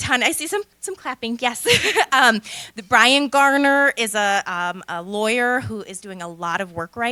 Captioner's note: laughter